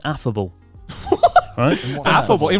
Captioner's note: chuckling